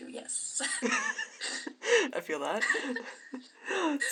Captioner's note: laughter